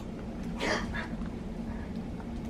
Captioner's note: gasps